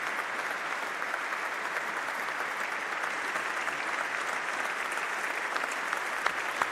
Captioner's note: applause